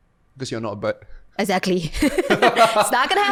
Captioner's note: laughter